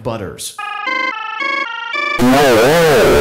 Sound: stuttering rising up the scale

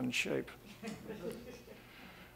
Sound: audience laughing

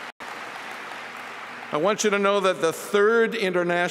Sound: applause

